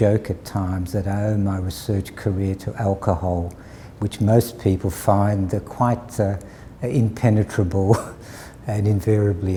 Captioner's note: chuckle